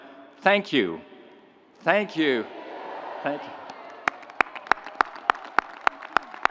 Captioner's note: audience cheering